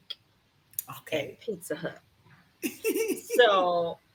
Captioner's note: laughs